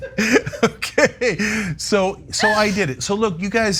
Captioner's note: laugh